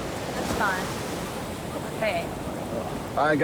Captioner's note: waves crashing